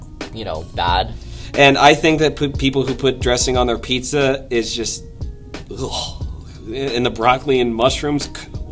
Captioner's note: disgusted noise